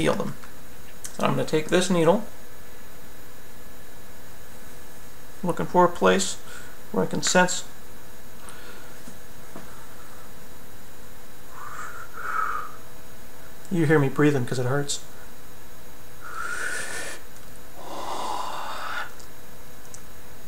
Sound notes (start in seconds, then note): 8.4 inhales; 16.3 inhales, exhales, pop!